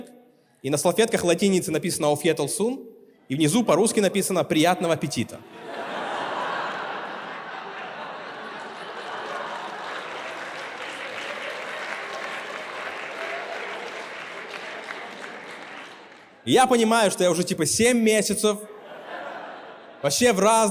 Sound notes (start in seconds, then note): 8.4 applause